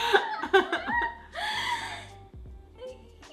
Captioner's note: laughs; soft electronic music